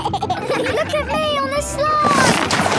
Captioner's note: giggles